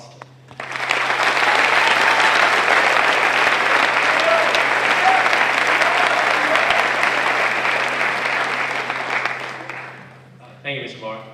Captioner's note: applause